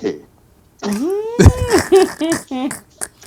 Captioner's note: laughing